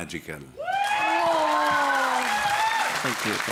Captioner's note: applause, cheering